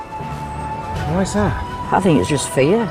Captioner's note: voiceover